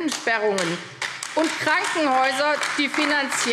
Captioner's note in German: Beifall AfD